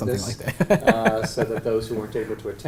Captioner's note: laugh